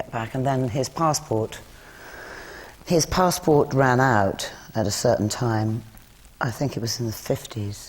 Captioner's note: sighs